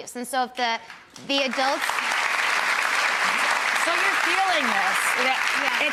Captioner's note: audience clapping